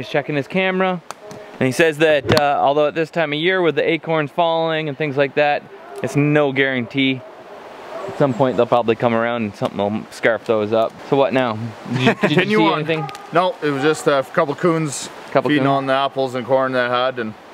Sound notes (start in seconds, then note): 11.8 chuckling